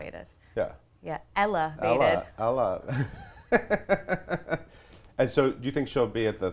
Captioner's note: laughs